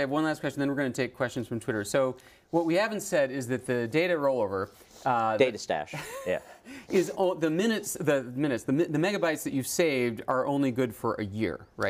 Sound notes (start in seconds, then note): 6.6 laugh